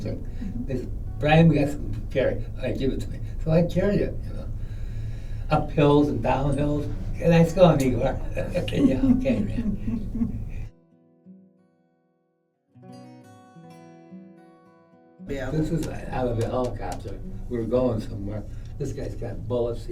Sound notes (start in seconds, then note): 8.1 chuckles; 11.9 laughter